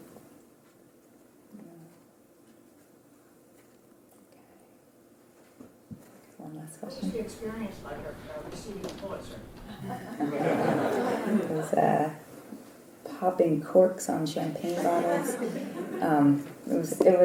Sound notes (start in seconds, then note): 12.2 laugh